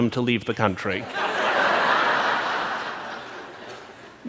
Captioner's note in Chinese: 笑聲